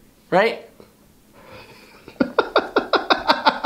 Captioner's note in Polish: śmiech zza kamery